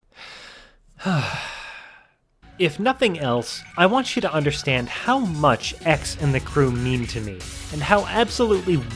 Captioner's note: breathing